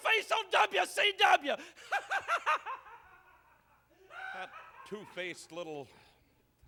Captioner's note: laugh